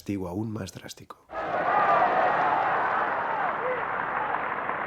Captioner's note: cheering crowd